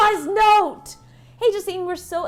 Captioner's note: gasping